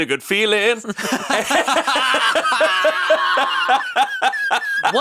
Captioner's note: all laughing